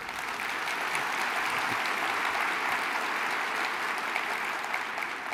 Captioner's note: applause